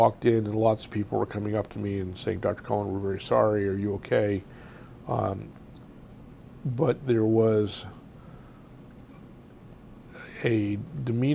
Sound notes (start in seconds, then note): 7.9 pauses for 3 seconds